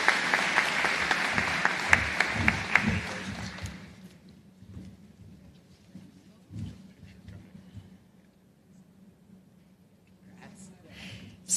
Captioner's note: applause